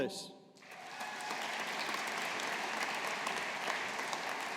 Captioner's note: audience applauding